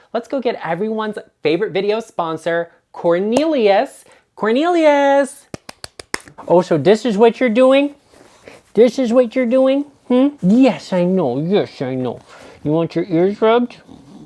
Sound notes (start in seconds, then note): 5.4 hands clapping